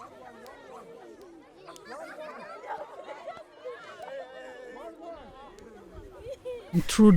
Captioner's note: talking and laughing